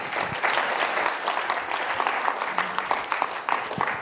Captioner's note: applause